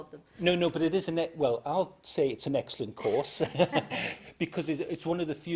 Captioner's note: laughs